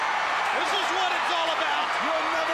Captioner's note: crowd cheering